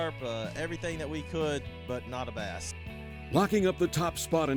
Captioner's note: voiceover